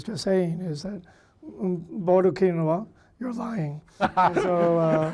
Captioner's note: speaking foreign language; laughing